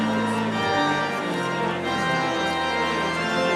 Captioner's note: none